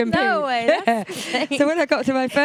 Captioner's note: laughing